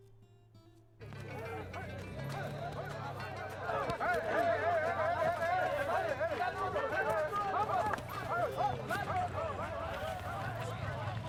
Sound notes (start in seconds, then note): 3.8 aplausos